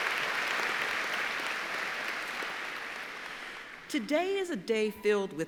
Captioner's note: applause